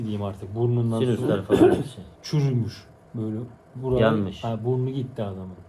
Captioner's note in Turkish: boğazını temizler